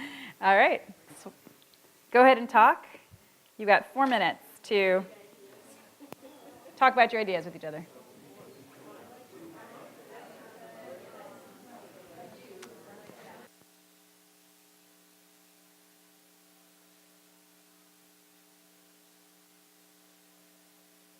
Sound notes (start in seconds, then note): 0.0 chuckles; 8.4 audience chattering softly